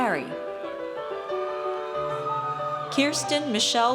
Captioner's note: audience cheers